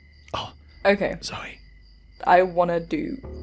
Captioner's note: whispering